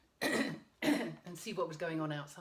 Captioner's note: clearing throat